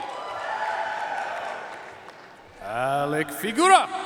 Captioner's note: audience cheering and applauding